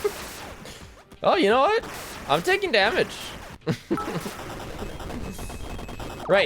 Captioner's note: laughs